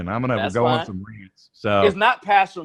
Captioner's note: murmurs